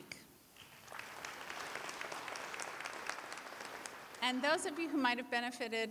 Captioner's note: applause